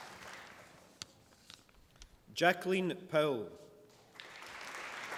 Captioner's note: applause